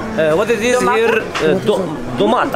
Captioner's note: Turkish